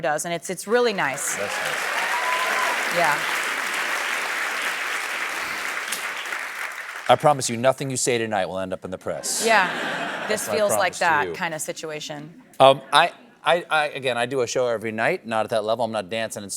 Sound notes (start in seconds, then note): 0.8 applause